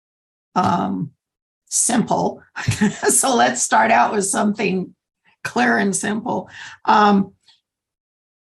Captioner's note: laughter